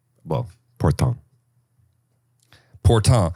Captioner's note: says word in French